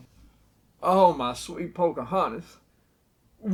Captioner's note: breathy southern accent